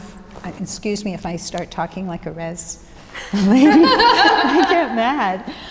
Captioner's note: laughs